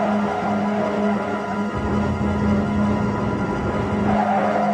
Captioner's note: tires squealing